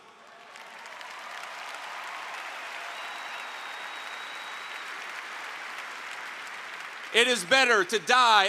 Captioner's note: applause